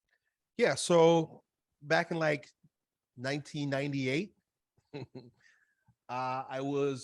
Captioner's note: laughs